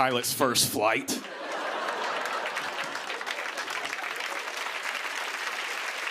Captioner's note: cheers and applause